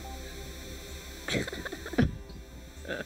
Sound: chuckling

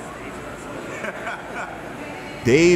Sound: laughs

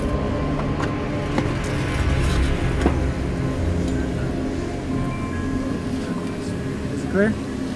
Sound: suspenseful music continues; metal crushing

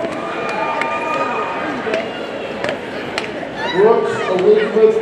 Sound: audience cheering

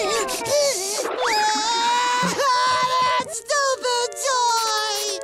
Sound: crying

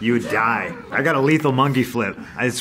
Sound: laughs

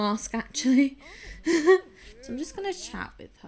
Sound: laughs

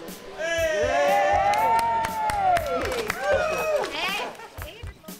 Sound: cheering

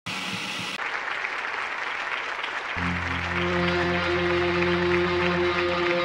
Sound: applause

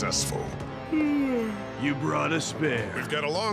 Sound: yawning

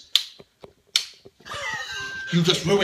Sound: stifled laughter

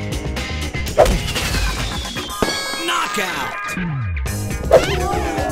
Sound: party popper audio; crowd cheering

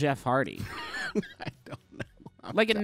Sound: laughing

